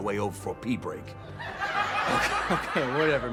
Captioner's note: audience laughs